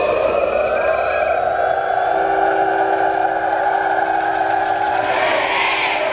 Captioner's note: applause